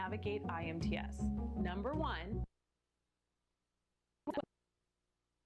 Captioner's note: audio cuts out